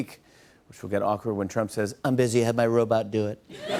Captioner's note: As Trump; laughter and applause